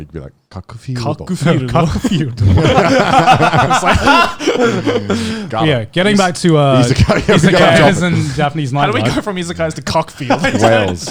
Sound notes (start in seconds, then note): 2.3 all laughing